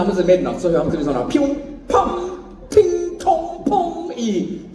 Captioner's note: pinging noises